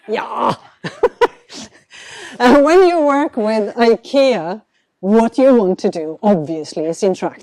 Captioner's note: chuckles